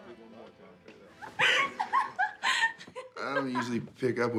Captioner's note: woman laughing